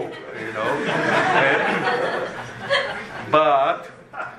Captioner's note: laughter